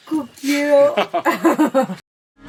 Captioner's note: laughing